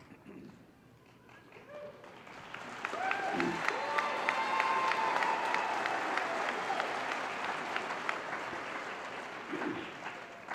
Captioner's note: applause